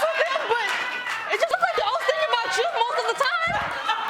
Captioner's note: laughter